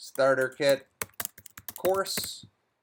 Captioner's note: keyboard clattering